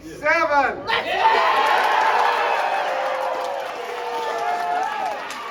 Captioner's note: happy nerd noises